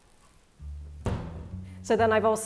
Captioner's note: cabinet thuds